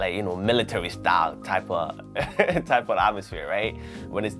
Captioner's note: laughs